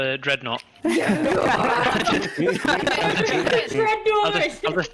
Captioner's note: bloodthirsty laughter